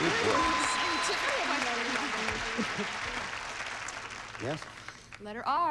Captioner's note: audience applauding